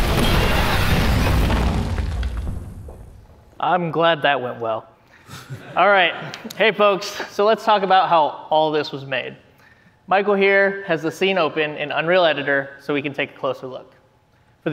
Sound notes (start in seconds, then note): 5.2 laughter